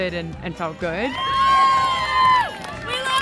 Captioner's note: cheering